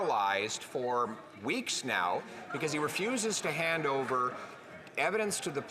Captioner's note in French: voix de l'interprète